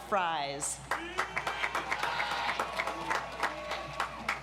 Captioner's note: audience applauds